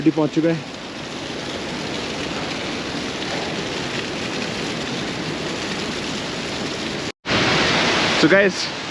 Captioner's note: water sounds